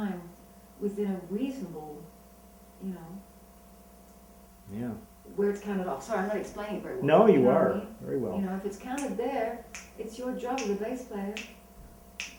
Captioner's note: snaps fingers